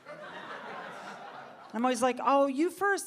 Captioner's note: audience laughing